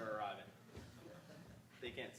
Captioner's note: audience laughing